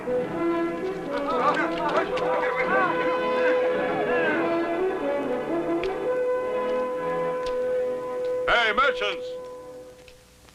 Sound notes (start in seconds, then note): 1.9 chatter